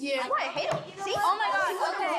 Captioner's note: group babble